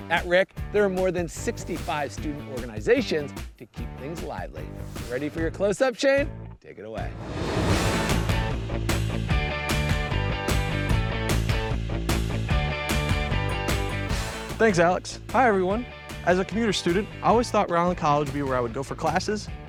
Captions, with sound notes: At RIC, there are more than 65 student organizations to keep things lively. Ready for your close-up, Shane? Take it away. (graphics whooshing) (upbeat music) - Thanks, Alex. Hi, everyone! As a commuter student, I always thought Rhode Island College would be where I would go for classes